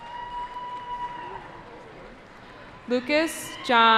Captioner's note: cheering